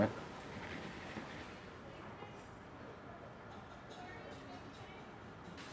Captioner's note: muffled chatter